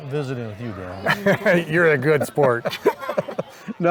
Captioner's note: group laughs